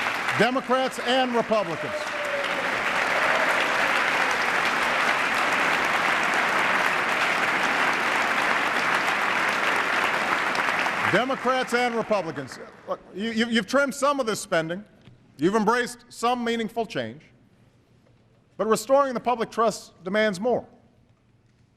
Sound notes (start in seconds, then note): 2.9 applause